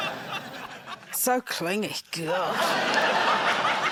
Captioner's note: laughter